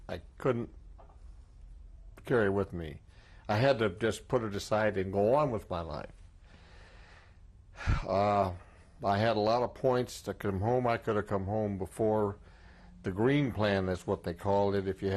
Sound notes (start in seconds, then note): 7.7 sighs